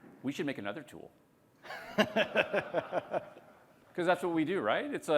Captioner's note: laughter